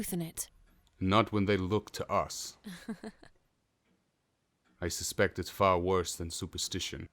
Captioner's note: Mary chuckles